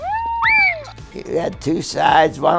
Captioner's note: child screams